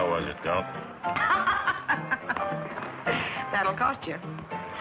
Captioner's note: laughs